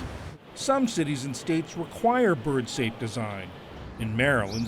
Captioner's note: voice-over